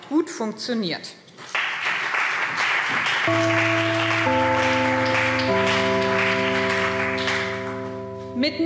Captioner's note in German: Beifall BÜNDNIS 90/DIE GRÜNEN und CDU